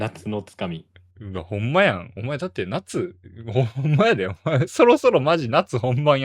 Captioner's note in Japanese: 笑い